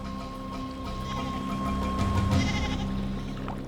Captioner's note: sheep bleating